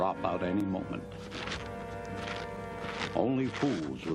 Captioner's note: clothes squeaking